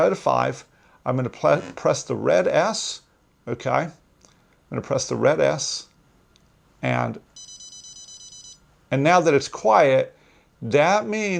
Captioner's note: repetitive beeping, stops